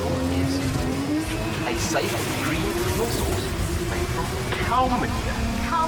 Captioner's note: cars revving loudly over commentator